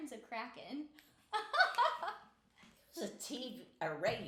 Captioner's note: laughing